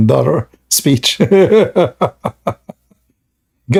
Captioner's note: Ketawa